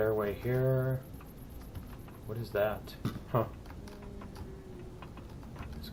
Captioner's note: footsteps; turret turning; drone humming